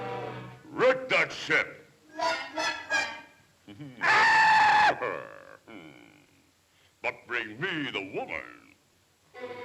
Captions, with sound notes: Wreck that ship! (playful music) (bird squawks) But bring me the woman.